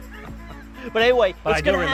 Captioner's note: both laugh